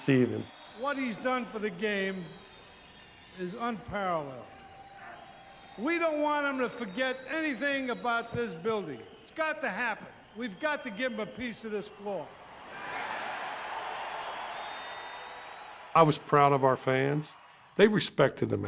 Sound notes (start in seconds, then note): 13.9 cheers and applause